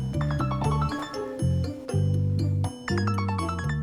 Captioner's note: phone rings